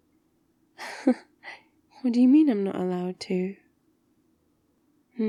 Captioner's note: laughs